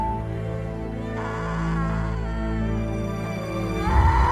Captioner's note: woman screaming